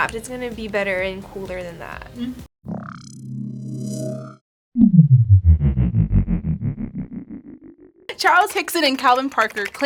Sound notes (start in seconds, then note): 2.4 ominous hum